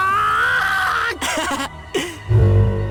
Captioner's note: chuckle